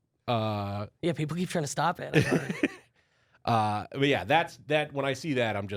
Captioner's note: laughs